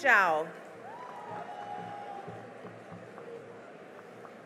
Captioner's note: cheering and applause